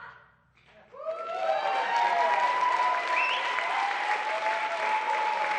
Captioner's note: cheering